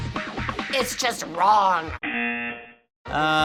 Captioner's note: buzzer